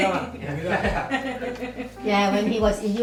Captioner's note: laughs